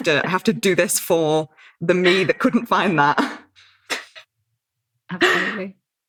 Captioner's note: laughs